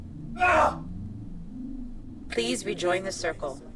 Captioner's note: Derek yelling